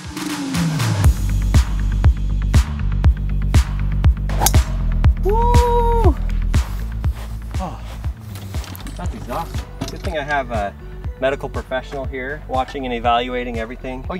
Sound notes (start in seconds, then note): 0.2 upbeat music; 4.3 golf club pings; 6.7 upbeat music